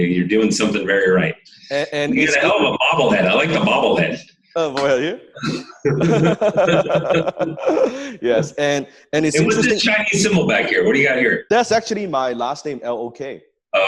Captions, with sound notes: You're doing something very right. You have a hell of a bobble head. I Like the bobble head. Oh boy are you? (both laugh) - Yes, and it's interesting-- - What's the Chinese symbol back there? What do you got here? - That's actually my last name Lok.